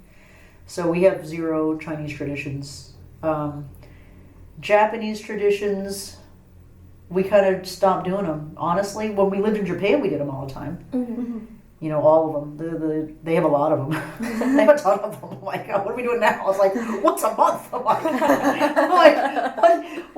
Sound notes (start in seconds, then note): 14.0 laughs; 16.8 laughing; 18.8 laugh